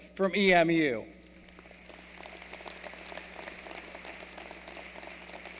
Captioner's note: applause